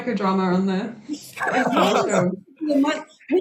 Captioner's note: laughs